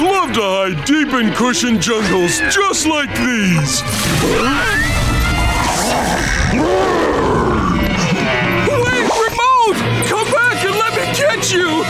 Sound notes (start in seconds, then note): 3.7 suspenseful music playing; 4.1 roaring